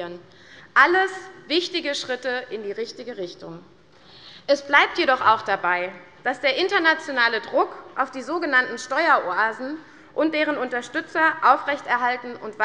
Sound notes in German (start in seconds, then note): none